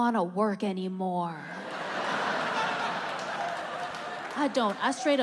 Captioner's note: audience laughing